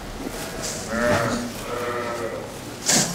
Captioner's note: bleating